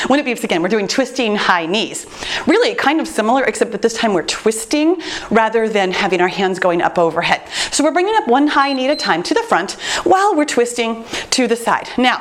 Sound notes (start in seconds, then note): 8.6 timer beeps